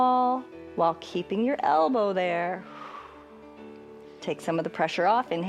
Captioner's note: exhales